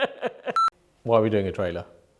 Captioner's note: audio beeping